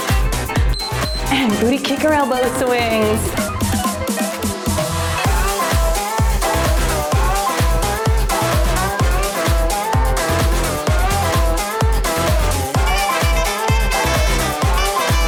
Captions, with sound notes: (timer beeps) And booty kicker elbow swings. (cheerful music)